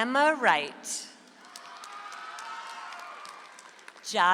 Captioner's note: audience applauds